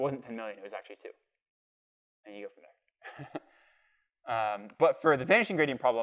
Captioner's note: laughter